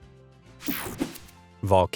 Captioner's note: light, upbeat music; graphics whoosh